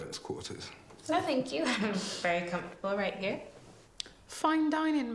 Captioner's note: laughs